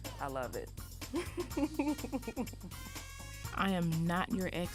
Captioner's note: laughs